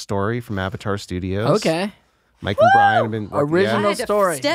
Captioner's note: whoops